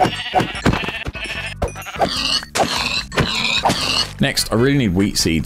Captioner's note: animals dying